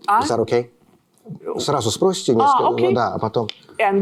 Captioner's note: speaking russian